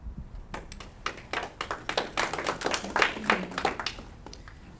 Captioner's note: audience clapping